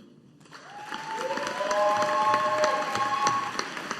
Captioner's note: audience applauding